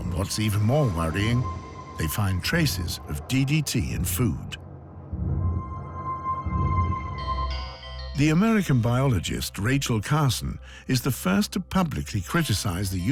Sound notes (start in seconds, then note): 4.9 eerie sounds